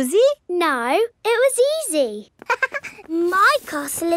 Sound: chuckles

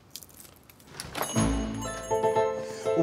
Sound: door jingle

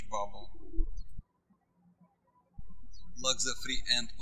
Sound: birds chirping

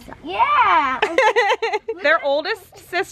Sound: laughing

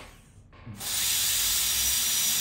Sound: drill whirs

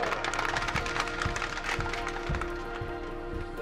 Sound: team claps

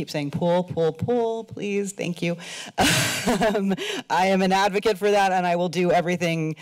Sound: laughter

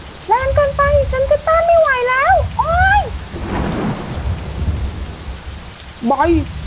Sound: fearful

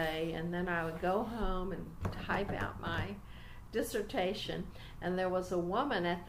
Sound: taps on table as if typing

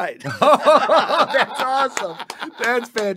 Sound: all laughing heartily; claps

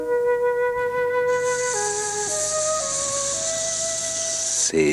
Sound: hisses

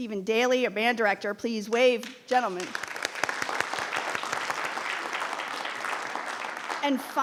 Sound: audience applauding

